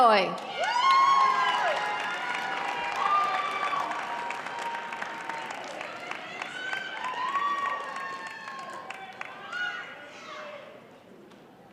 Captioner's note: applause